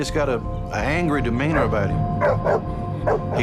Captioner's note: barks